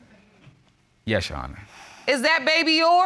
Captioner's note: sighs